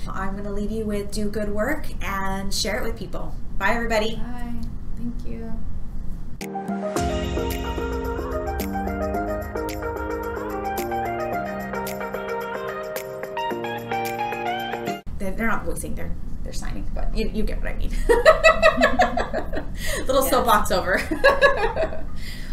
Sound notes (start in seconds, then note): 6.7 upbeat music; 18.0 laughter